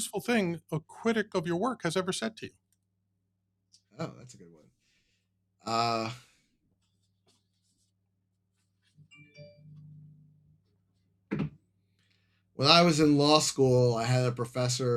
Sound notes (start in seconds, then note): 6.0 phone ringing